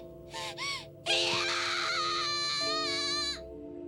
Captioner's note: screams in galactic language